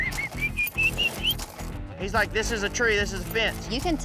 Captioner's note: booger whistling